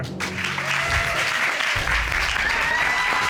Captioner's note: audience cheering